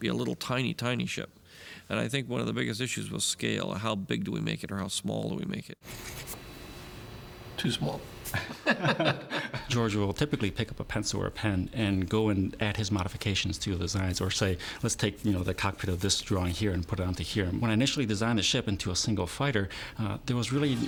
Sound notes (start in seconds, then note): 8.3 laughing